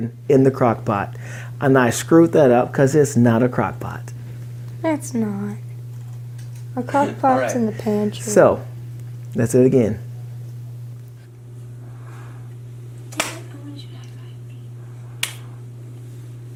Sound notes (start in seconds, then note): 13.5 clapping